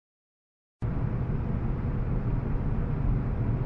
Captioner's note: air conditioning